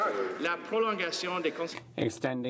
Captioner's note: some Applause